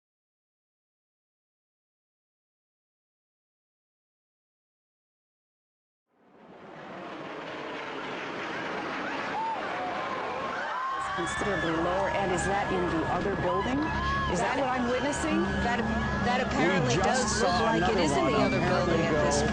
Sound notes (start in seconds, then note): 6.3 airplane whooshing; 9.7 people screaming